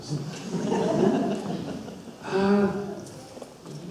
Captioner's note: audience laughs